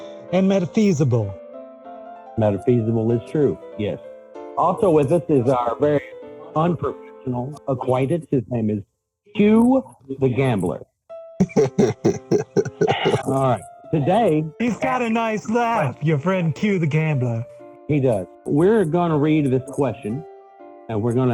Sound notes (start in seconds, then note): 8.3 laughs